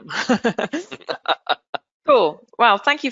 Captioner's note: laughs